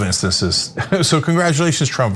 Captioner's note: laugh